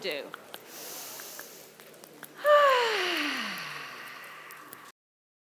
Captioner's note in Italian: Respiro profondo